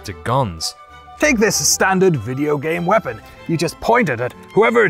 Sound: knightly voice

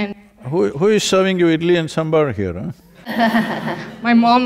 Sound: laughter

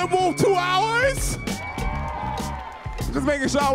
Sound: audience cheering

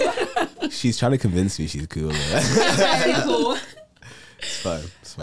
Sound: all laugh

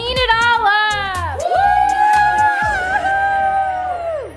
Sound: cheering

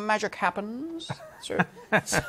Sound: laughs

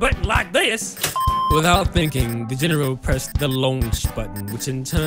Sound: alert sounds ringing

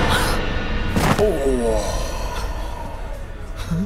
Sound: groans

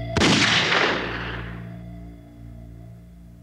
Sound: gunshot

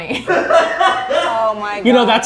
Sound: all laughing

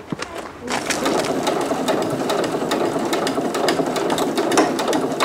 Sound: sewing machine rumbling

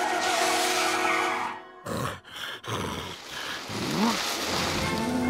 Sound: panting

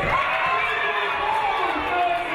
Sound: audience cheering

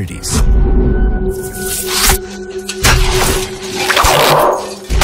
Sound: crashing sounds

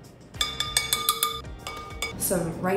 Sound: glass clanging

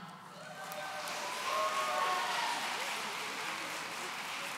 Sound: audience cheering

